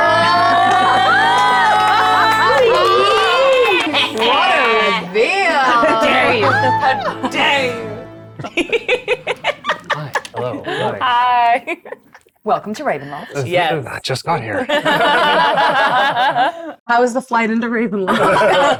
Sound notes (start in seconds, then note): 0.0 everyone cheers; 8.4 chuckles; 14.6 everyone laughs